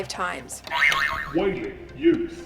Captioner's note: buzzer 2